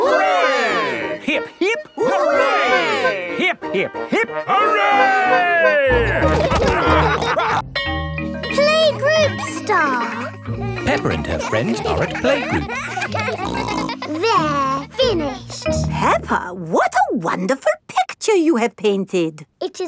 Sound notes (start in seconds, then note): 5.9 all laughing; 13.1 kids giggling